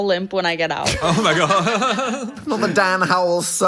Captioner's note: Dan laughing